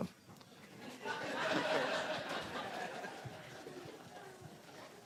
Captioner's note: laughter